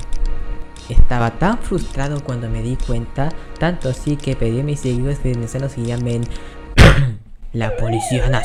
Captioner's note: cough